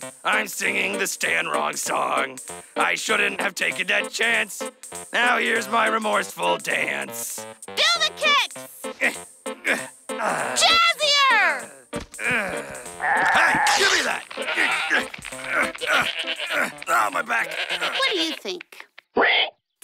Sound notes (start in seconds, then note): 10.2 grunts; 12.6 bleats; 15.3 grunts; 15.3 groans; 15.4 bleats; 19.1 squeals